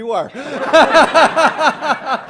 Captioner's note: laughter